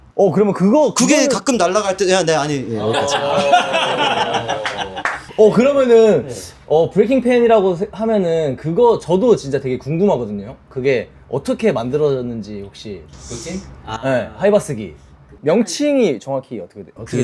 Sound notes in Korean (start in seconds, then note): 2.8 웃음; 13.3 콧방귀